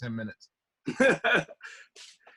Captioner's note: laughs